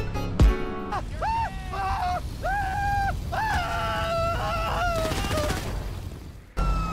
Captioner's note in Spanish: Grita de angustia